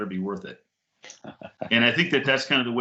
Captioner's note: laughing